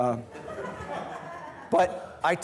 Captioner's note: students laughing